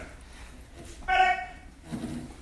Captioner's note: enthusiastic shouting